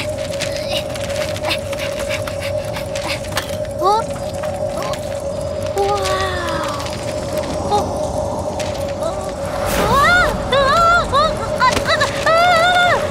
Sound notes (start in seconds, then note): 1.5 breathing heavily; 9.7 screaming